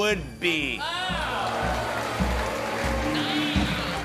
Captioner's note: cheers and applause